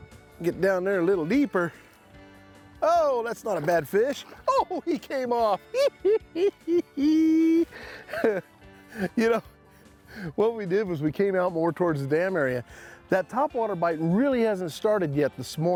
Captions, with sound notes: Get down there a little deeper. Oh that's not a bad fish! Oh he came off! [laughing] You know, what we did was we came out more towards the dam area. That top water bite really hasn't started yet this